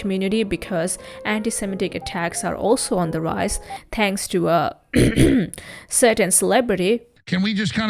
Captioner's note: coughs